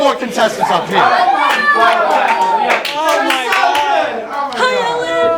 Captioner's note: cheers